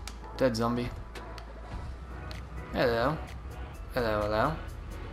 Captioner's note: with English accent